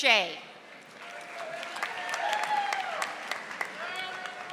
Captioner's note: audience applauding